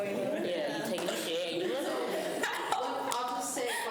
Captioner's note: students chatter